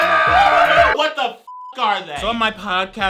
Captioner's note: man yelling and hooting; beep